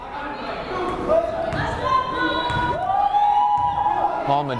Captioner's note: yelling